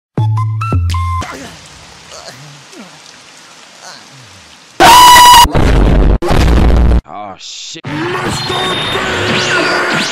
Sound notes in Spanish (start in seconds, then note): 5.4 Boom